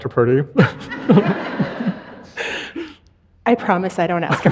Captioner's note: audience laughing